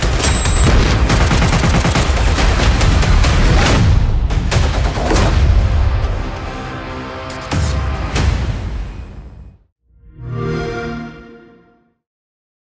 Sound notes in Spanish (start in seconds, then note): 0.5 explosión